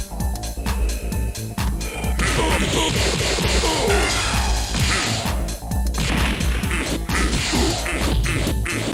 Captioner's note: slaps